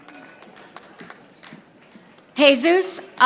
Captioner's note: audience applauding